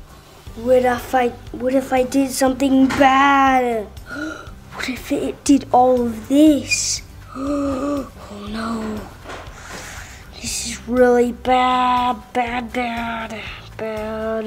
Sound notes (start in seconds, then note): 7.2 gasping